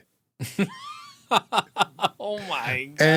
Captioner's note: laughing